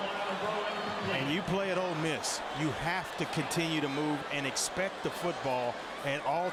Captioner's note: crowd noise